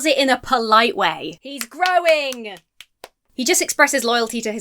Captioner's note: claps